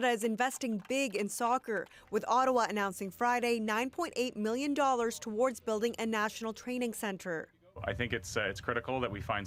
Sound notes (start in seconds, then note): 0.3 applause